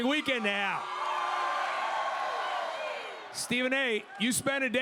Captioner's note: crowd cheers